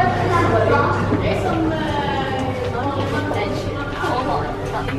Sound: excited chattering

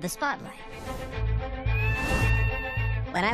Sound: bird cry

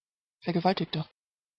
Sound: fast Pronunciation

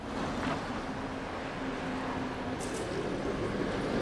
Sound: city street noise

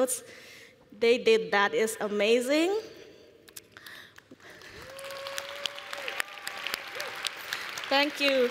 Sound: applause

